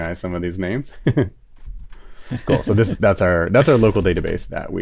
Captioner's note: laughs